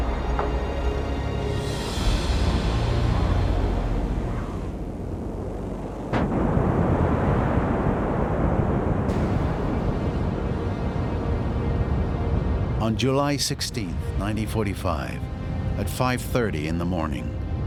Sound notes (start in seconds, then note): 6.2 huge explosion